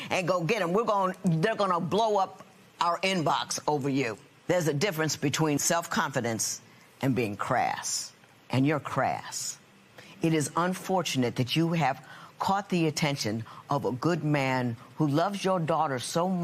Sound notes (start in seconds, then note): none